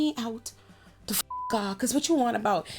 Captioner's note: beep